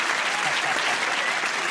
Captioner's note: applause